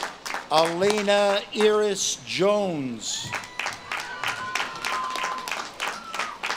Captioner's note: audience claps and cheers